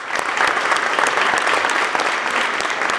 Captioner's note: applause